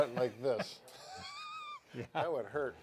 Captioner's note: both laughing